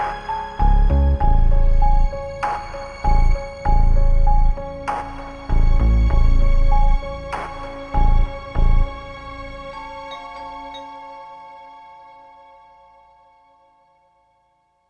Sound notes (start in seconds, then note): 10.0 doorbell rings